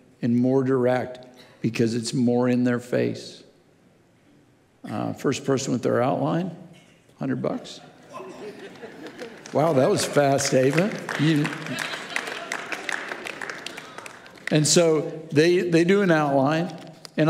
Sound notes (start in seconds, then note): 11.0 audience clapping